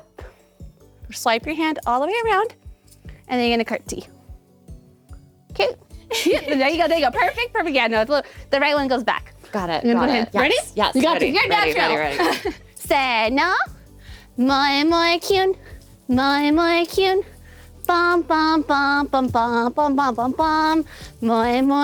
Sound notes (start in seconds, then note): 14.5 speaking foreign language; 17.8 singing in foreign language